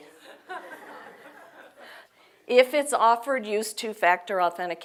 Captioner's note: laugh